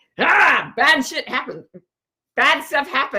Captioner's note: groans